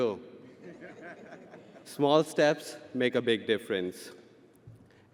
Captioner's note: audience laughing